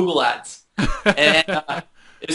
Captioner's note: laughter